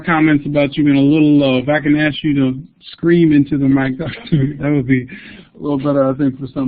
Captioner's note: laugh